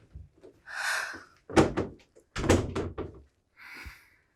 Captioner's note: Erica sighing